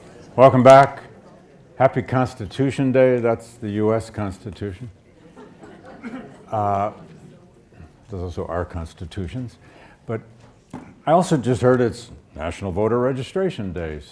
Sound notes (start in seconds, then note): 5.1 audience laughs